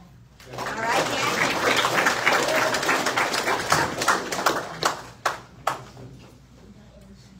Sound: audience applauds

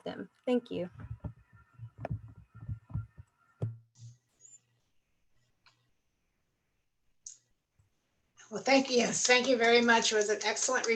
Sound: applause

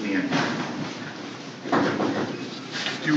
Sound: sounds of people moving in room

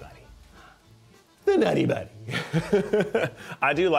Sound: chuckles

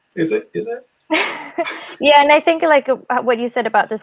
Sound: laughs

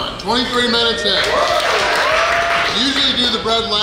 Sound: cheering & Clapping

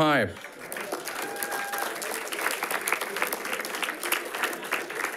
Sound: audience applauding

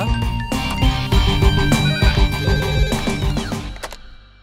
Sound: phone rings

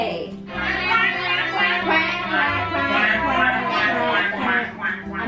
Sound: everyone quacking

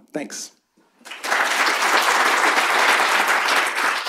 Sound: applause

